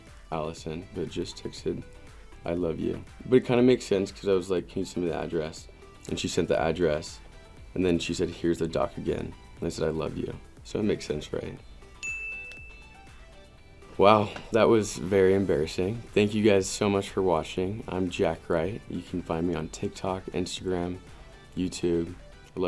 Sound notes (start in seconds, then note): 11.9 ding